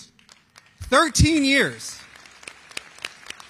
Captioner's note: applause